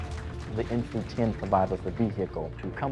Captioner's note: crowd cheers